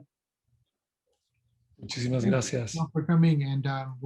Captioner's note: spanish